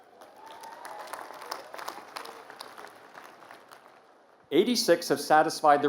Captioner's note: applause